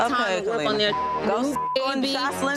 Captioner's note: beep